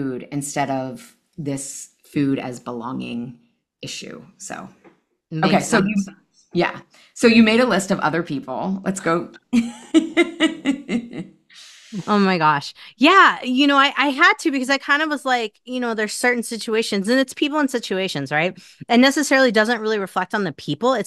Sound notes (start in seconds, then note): 9.8 laughs